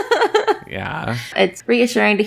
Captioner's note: laughs